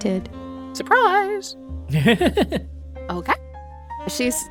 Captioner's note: laughs